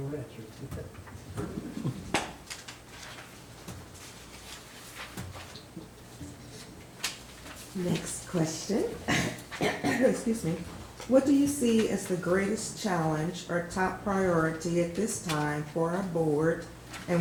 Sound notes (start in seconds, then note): 9.0 clearing throat